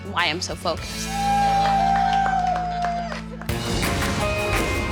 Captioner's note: cheers and applause